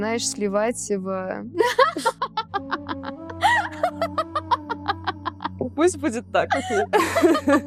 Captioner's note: laughing